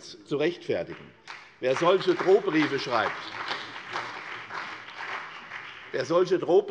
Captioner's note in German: Beifall